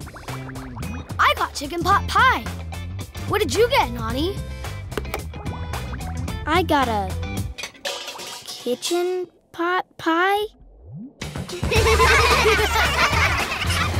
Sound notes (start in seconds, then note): 11.6 laughing